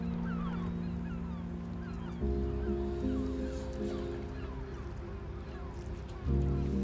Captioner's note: birds cawing; dramatic music